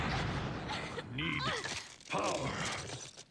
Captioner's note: grunting